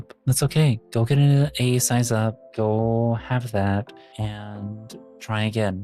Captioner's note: none